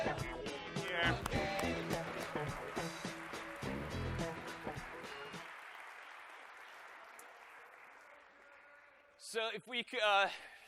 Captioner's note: applause